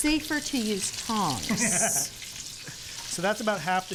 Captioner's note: laughs